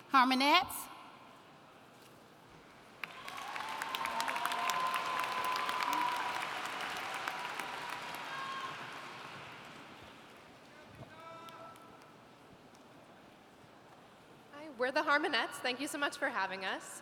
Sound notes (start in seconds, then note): 2.9 applauding